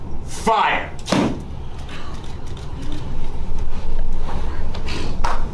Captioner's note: book slams shut; applause